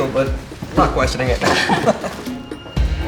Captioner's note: laughs